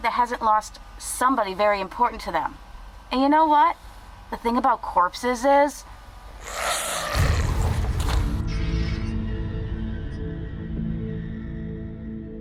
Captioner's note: zombie sound